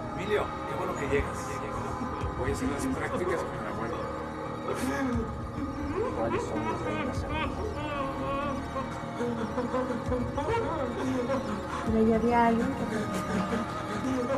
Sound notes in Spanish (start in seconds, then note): 4.3 sollozar; 14.1 sollozar